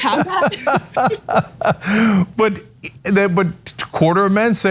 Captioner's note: laugh